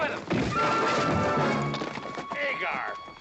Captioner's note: thump